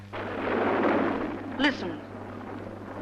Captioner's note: distant rumbling